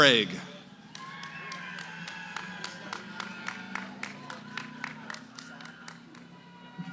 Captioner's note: cheering, applause; background conversations